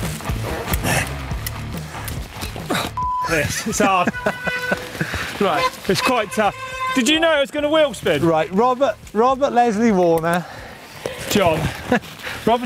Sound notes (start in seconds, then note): 2.9 beep